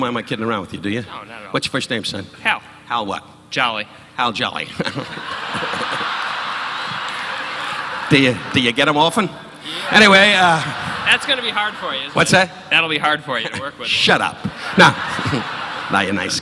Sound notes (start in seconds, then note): 4.8 audience laughing